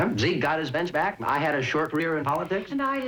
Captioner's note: laughing